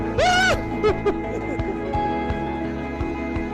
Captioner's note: whooping, laughing